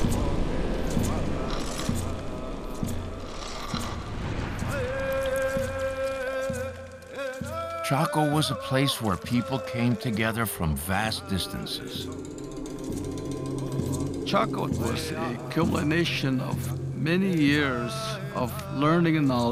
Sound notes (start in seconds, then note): 0.7 scraping; 4.7 chanting, drumming continue